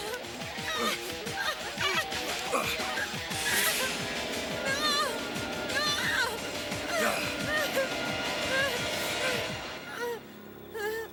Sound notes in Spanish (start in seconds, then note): 1.2 Jodie gritando; 7.9 Respirando pesadamente